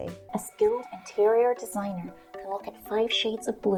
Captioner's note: American accent